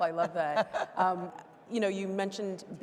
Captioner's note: laughing